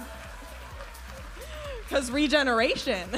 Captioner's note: audience applauding and cheering